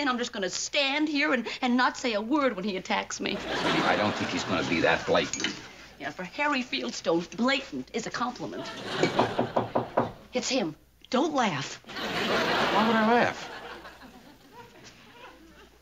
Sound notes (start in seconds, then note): 9.0 knocking